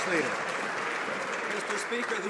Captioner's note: some Applause